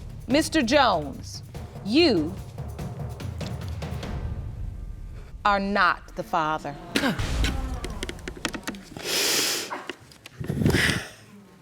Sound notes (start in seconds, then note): 9.0 sobbing